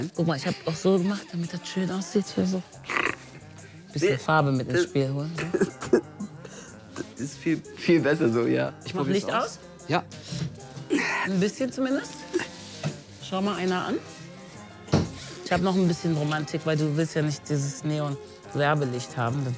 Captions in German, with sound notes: Ich hab auch so gemacht, damit das schön aussieht. (Er lacht.) Farbe ins Spiel holen. (Er kichert.) Das ist viel besser so, ja. Ich mach Licht aus. - Ja. Ein bisschen zumindest. (Er ächzt.) Schau mal einer an. Ich hab noch Romantik, du willst ja nicht dieses Neonlicht haben.